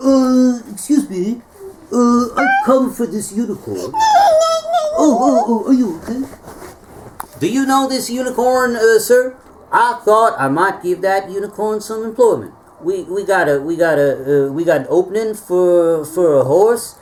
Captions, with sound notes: Excuse me, I've come for this unicorn. [neigh neigh neigh neigh neigh] Oh, are you okay? Do you know this unicorn, sir? I thought I might give that unicorn some employment. We got an opening for a horse.